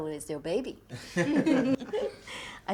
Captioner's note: all laughing